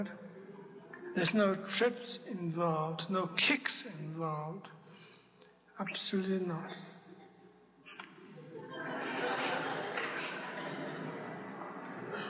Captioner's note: laughter